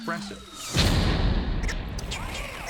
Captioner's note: crashing; chattering